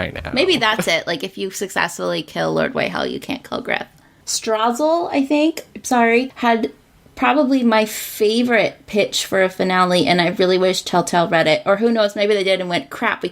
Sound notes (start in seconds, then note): 5.0 struggles with pronunciation